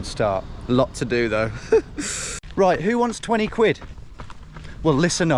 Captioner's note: laughing